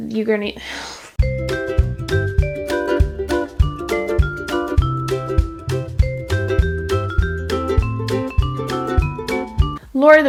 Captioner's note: sigh of inability to speech good